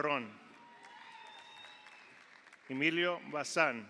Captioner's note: audience applauds; audience cheers